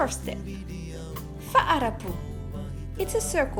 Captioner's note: foreign language